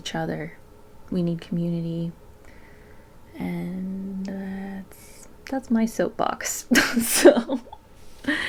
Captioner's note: laughs